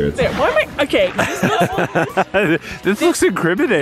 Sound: laughing

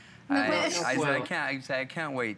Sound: foreign language

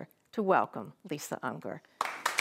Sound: audience applauds

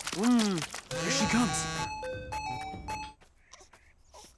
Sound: buzzing, chiming

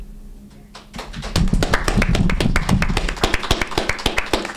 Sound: group applauds

